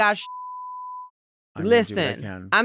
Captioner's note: beep